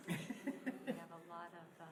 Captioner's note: laughing